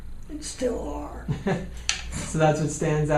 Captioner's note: chuckles